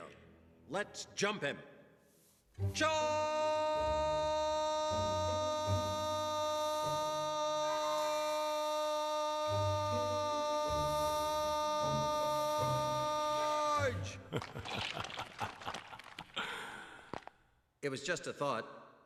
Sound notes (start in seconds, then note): 14.2 sinister chuckle